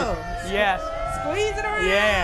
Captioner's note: cheering